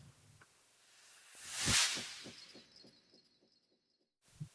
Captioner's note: sound effect